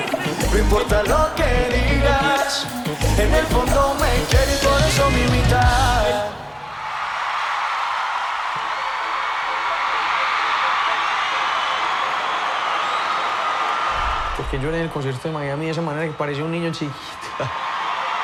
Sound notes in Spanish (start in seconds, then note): 6.5 la audiencia aclama; 10.2 fanáticas aclamando